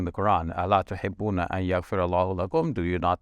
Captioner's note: speaks Arabic